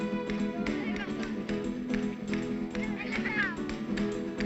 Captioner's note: distant chatter